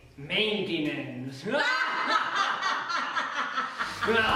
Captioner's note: evil laughter